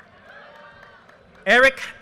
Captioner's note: audience cheers and applause